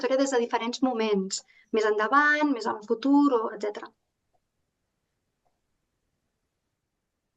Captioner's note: continues speaking in Catalan